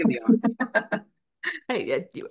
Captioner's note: laughs